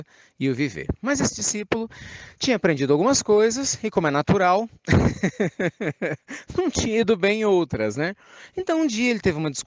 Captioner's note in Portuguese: Risos